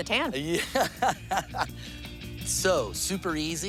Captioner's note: laughs